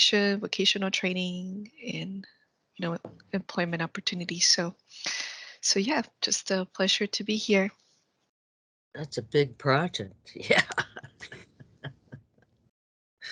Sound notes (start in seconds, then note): 10.2 laughs